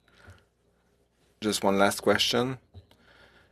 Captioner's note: speaking French